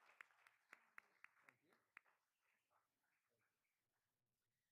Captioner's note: all applauding